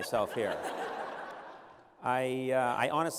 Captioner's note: laughter